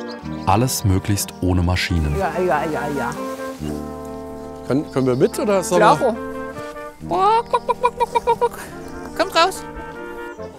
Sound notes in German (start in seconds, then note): 7.0 Er imitiert Hühnerlaute